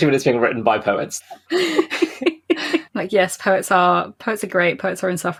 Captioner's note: laughs